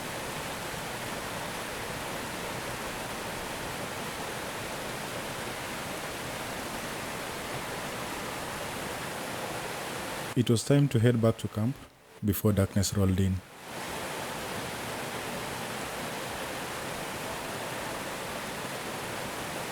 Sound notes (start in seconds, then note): 15.0 water rushing